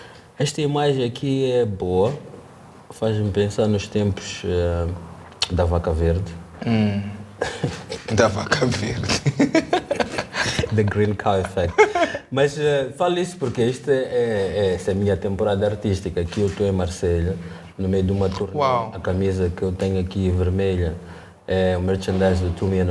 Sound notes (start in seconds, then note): 7.4 laughs